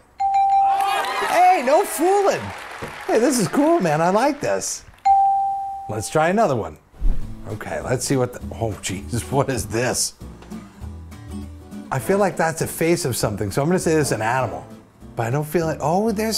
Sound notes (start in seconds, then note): 0.4 bell rings / audience applauds; 5.0 bell rings